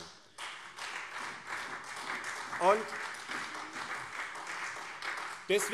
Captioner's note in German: Beifall SPD